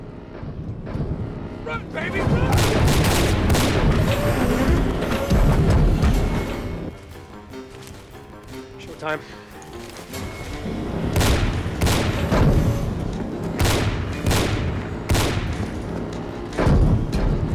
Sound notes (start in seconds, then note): 2.4 gunshot; 10.4 gunshot